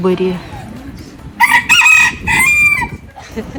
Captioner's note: roosters crowing